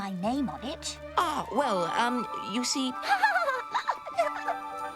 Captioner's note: laughing